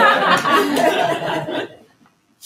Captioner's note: laughter